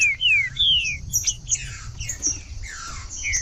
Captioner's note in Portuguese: trinca ferro cantando